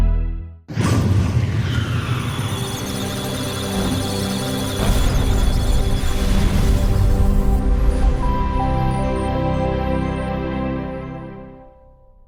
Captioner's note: electronic Sounds of Data; musical Tones